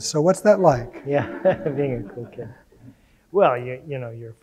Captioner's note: audience laughing